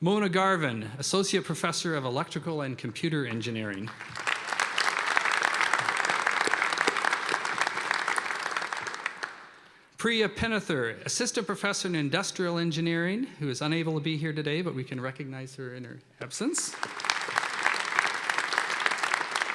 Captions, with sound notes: Mona Garvin, Associate Professor of Electrical and Computer Engineering. (applause) Priya Pennathur, Assistant Professor in Industrial Engineering, who is unable to be here today, but we can recognize her in her absence. (applause)